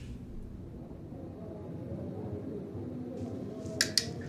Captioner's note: TV roaring